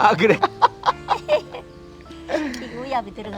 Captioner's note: both laughing